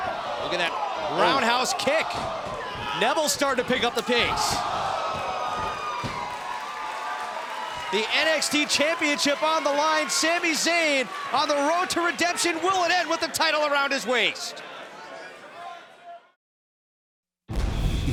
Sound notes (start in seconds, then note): 6.0 cheers & applause